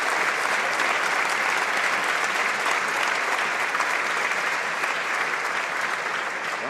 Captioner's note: applause